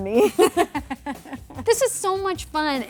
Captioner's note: laughing